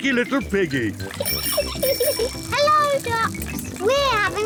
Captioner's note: giggles